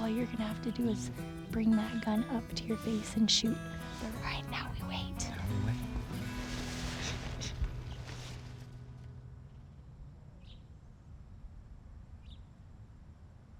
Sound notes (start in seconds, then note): 10.2 birds chirping